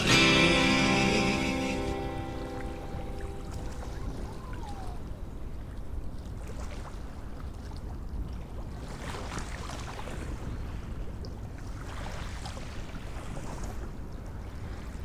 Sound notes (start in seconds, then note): 4.2 water sound